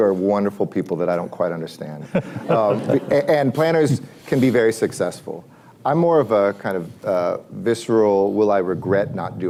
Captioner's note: laughter